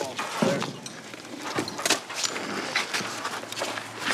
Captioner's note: footsteps crunching